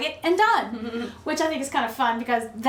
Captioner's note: laughing